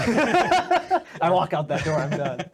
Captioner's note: laughing